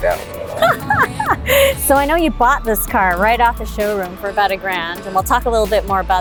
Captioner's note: laughs